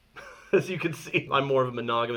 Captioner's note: laughing